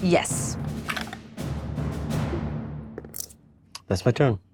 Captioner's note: die rattles